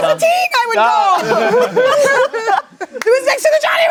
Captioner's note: everyone laughing